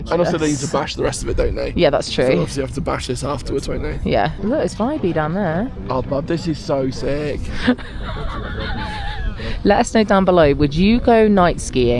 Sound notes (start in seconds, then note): 7.5 laughs